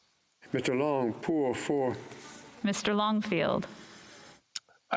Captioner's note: speaking French